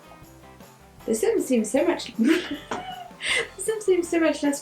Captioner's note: laughing